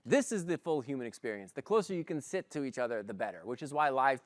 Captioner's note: none